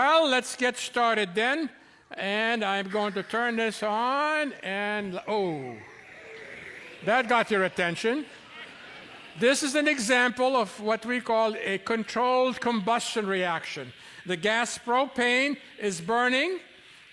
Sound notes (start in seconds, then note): 5.4 audience oohs; 8.3 laughter